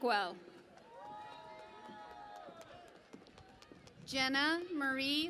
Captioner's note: cheering and Applause